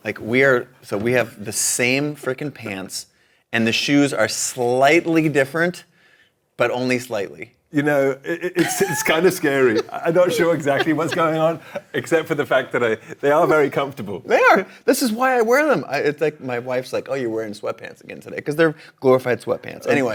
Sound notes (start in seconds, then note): 8.3 laughs